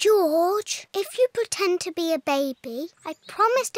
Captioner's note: none